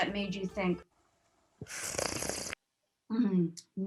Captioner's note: slurps